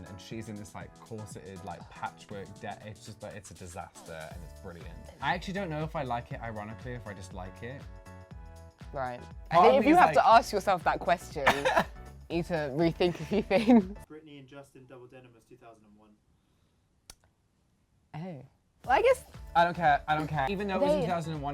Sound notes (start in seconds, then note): 11.5 laughs